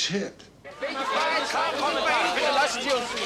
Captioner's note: shouting in German